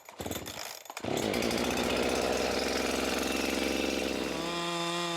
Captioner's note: saw engine rattling